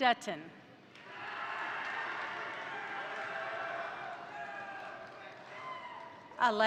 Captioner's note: crowd applauding; crowd cheering